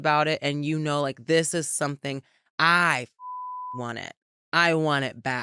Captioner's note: beep